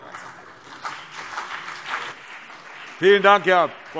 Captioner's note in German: Beifall CDU und BÜNDNIS 90/DIE GRÜNEN